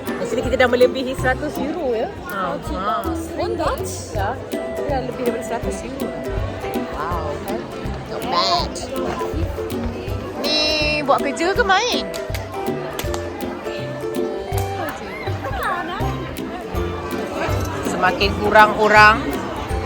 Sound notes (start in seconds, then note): 2.3 speaking German